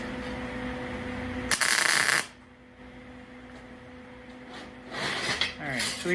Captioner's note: buzzing